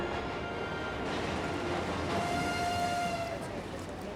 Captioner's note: train whistle blows